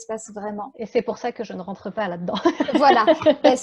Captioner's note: laughs